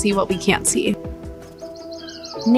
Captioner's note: birds chirping